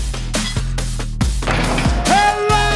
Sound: ball dunking

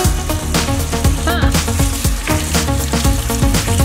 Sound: water running

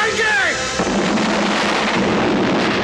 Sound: explosion

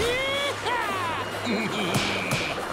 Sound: laughing

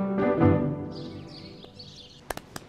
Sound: birds chirping

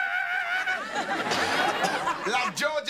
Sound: studio audience laughing

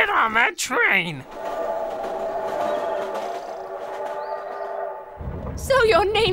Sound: train whistles and clacks

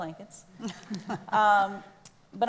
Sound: laughs

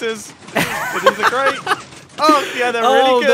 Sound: laughs

